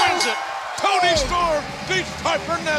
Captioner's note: bell ringing